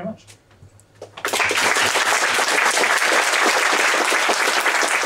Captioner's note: applause